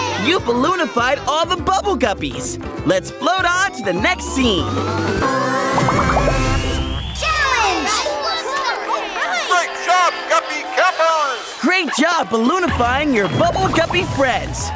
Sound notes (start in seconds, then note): 5.7 popping; 6.9 cheering